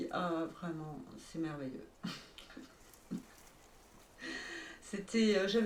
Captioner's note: chuckle